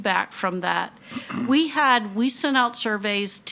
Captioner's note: attendee clears throat